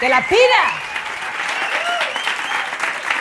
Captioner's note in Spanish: Aplausos